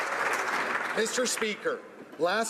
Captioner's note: applause